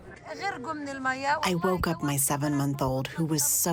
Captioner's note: through translator